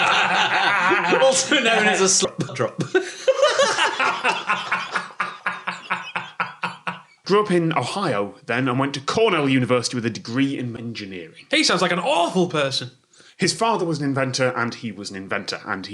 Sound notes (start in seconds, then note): 2.2 everyone laughs from disappointment